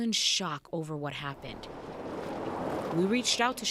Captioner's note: car rumbling